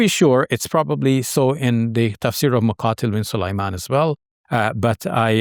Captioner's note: speaks a foreign language